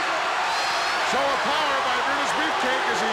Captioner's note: crowd cheers